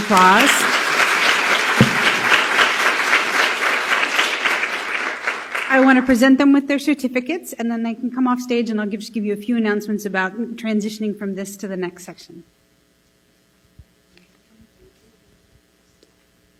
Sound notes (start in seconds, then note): 1.9 applause